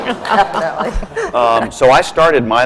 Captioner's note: laughter